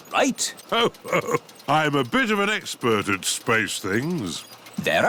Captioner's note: chuckles